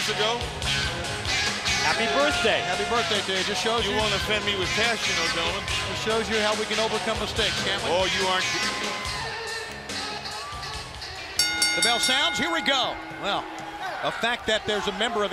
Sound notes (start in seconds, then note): 11.4 bell ringing